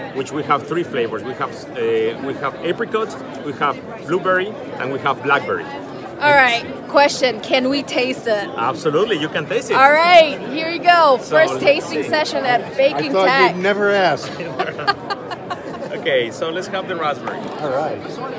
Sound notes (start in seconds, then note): 14.4 she laughs